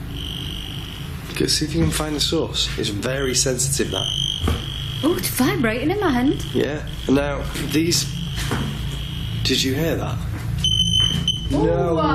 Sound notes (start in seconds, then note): 0.0 metre beeping; 8.4 soft thumping; 10.8 metre beeping